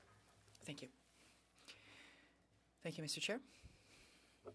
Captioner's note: speaking French